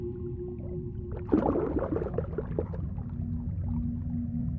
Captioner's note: ominous music; water sloshes; ominous music